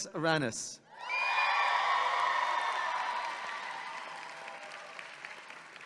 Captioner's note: audience clapping and cheering